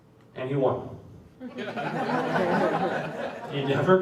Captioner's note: laughter